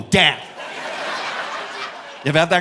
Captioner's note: audience laughing